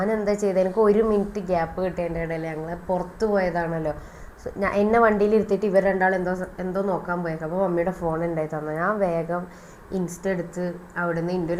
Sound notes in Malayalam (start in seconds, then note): none